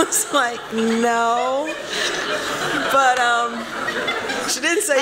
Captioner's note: laughter